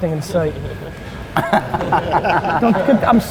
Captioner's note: group laughter